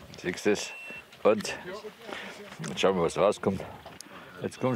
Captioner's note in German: Piepsen